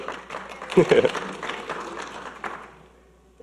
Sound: audience clapping

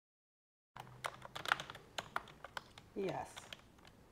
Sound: keyboard clacking

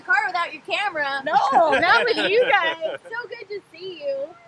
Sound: laughs

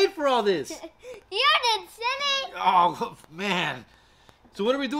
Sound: laughing

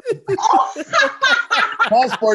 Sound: laughs

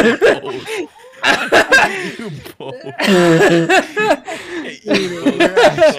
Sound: futher laughter, can't be transcribed

